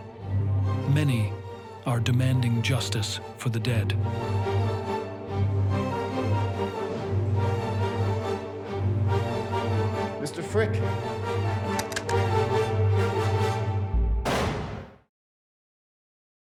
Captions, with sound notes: Many are demanding justice for the dead. [suspenseful music] Mr. Frick? [gunshot]